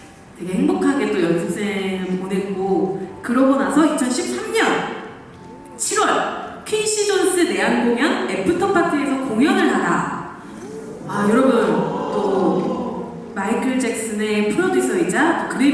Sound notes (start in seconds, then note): 10.4 exclamation